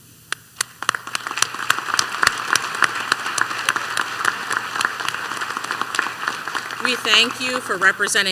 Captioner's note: applause